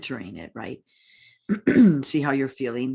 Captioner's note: clears throat